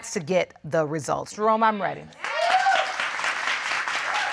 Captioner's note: applause